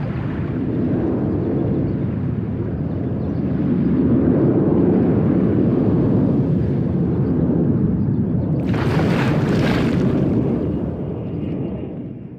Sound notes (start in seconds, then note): 0.0 plane passing overhead, ocean waves rippling softly; 8.6 loud splash as body falls into water